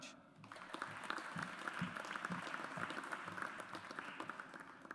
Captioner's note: audience applauds